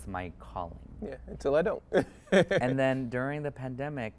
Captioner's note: chuckles